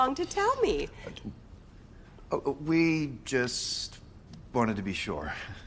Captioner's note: stammering